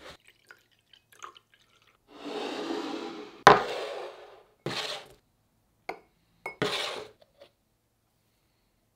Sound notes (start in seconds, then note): 0.1 liquid pouring